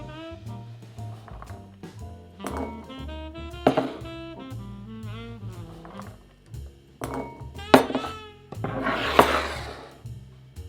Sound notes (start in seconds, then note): 2.4 potatoes dropping